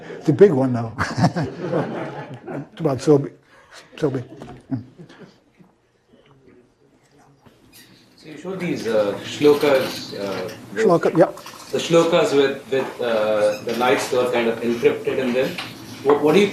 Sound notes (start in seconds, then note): 1.0 laugh